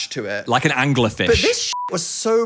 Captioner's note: beep